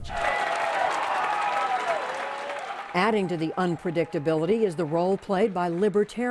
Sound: cheering and applause

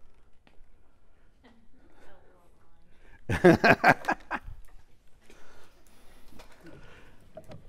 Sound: laugh

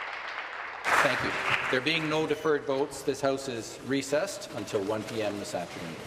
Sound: applause

